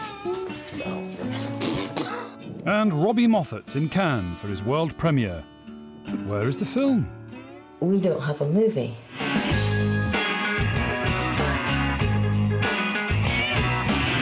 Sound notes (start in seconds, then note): 1.3 blows a raspberry